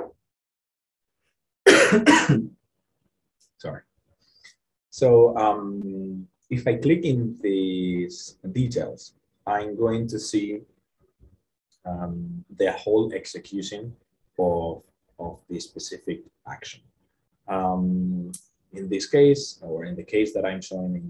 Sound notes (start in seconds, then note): 1.6 coughing